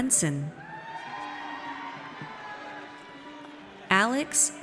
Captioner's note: audience cheers